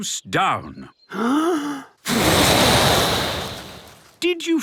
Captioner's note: inhaling deeply; blowing